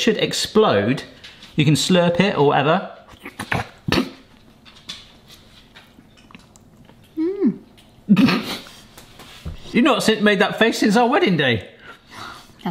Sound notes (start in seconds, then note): 3.1 slurping; 8.1 laughs